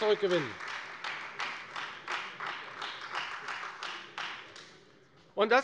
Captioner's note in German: Beifall Freie Demokraten